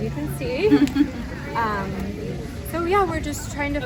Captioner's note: laughing